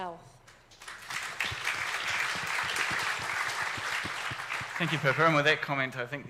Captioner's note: audience clapping